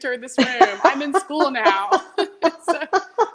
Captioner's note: both laughing